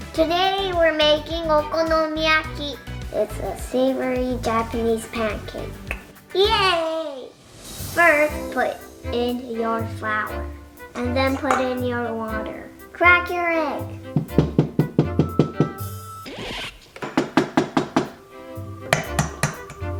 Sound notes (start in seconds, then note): 14.1 egg thudding